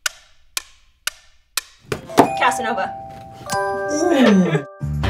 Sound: upbeat music; clock ticking

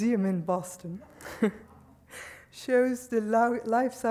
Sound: chuckling

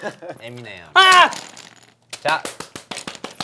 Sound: surprised

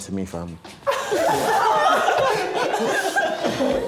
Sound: laughing

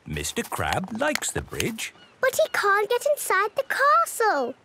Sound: none

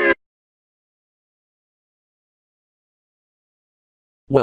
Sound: a moment of literal silence

